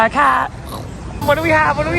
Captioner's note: growling